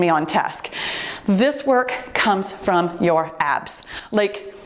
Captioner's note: timer beeps